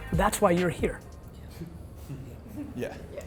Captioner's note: laughs